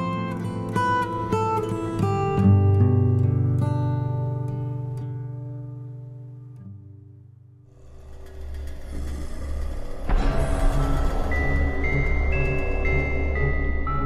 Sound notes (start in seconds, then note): 0.0 gentle acoustic guitar plays; 7.7 creepy music; 9.4 entity growls; 10.4 spooky music